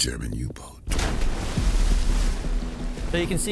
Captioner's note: torpedo exploding